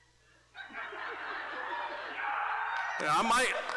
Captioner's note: audience laughing, cheering